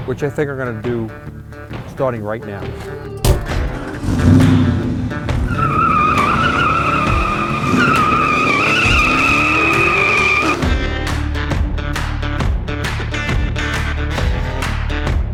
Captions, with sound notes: Which I think I'm gonna do starting right now. (car engine revving) (tires screeching) (rock music)